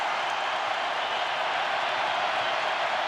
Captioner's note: crowd cheering